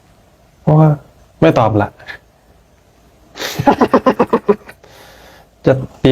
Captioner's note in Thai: เสียงหัวเราะ